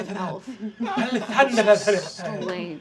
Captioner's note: elvish